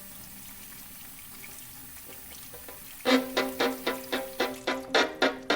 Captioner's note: water sloshing continues